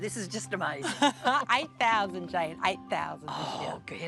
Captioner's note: laughs